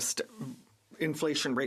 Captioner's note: speaking French